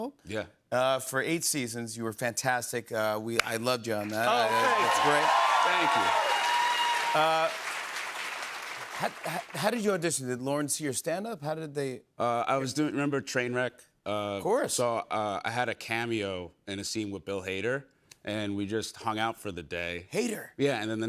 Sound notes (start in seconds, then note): 5.9 cheers and applause